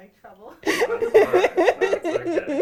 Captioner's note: laughing